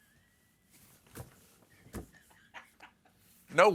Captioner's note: laughter